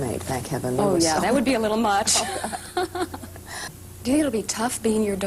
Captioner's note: laughter